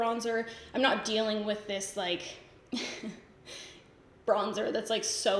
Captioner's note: giggles